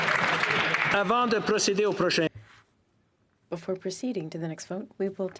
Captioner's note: some Applause